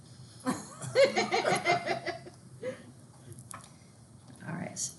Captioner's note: students laughing